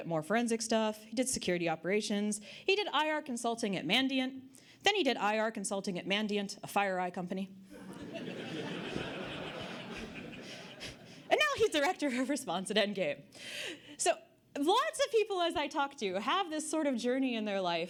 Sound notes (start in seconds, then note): 7.8 audience Laughter